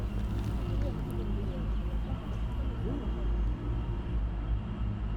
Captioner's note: pedestrians chattering